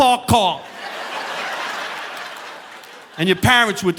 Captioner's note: audience laughing